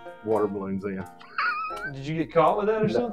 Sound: laughing

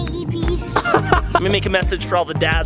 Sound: laughs

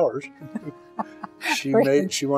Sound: laughs

